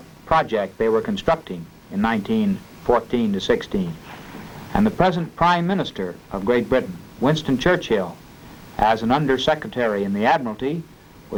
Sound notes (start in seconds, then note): none